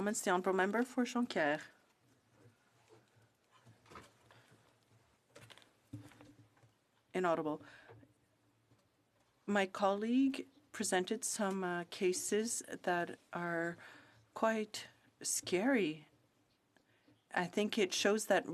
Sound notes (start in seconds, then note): 5.1 speaking french